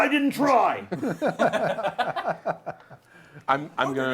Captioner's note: laughter